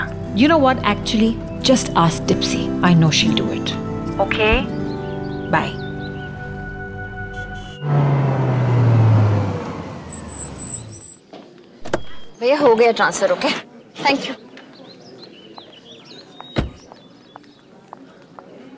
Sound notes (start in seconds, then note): 10.0 Car Halts; 11.8 Car door opens; 16.5 Car door closes